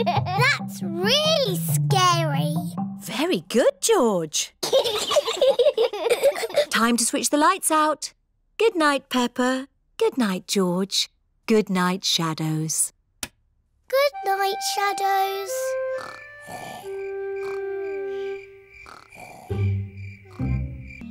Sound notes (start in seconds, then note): 4.6 both giggle; 16.0 george snoring